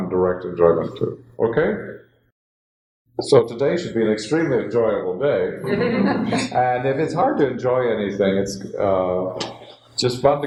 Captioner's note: laughter